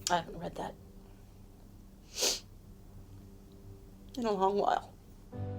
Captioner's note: exhales